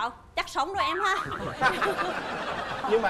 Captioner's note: laughing